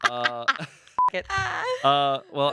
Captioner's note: laughs; beep